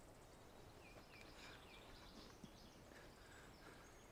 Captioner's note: birds chirping